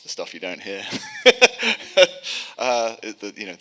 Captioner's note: laughing